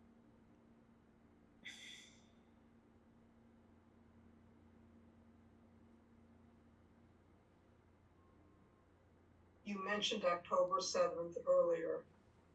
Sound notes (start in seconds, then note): 1.3 pauses 10 seconds